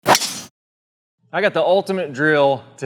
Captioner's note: club smacking; ball whooshing